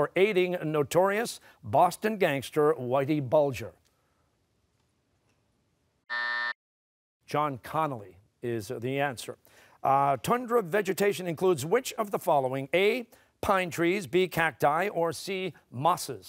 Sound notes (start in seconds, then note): 6.1 buzzer